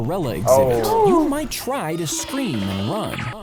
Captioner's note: gasps